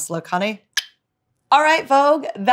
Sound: clicks tongue

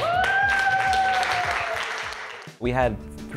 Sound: cheering

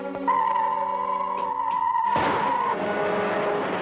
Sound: suit whirs

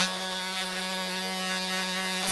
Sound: drilling sound

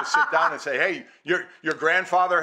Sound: laughing

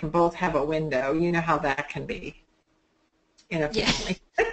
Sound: laughs

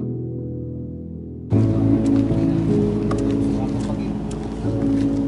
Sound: walking Footsteps

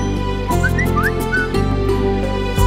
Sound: cell phone chimes

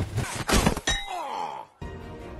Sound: groan of pain

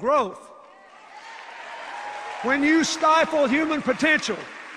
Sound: cheers, applause

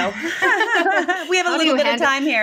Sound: laughing

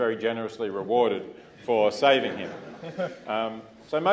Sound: laugh

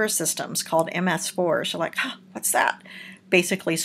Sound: gasp

